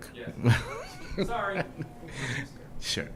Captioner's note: laughter